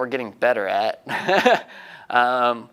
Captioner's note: laughing